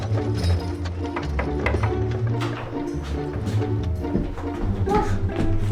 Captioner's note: Buck knocks on door